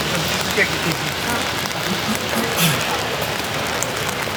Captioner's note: rain falling